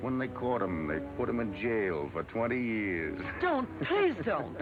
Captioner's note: laughs